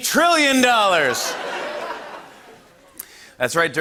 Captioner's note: laughter